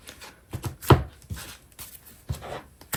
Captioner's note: drawing cards